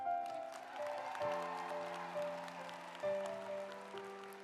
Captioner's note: audience applauds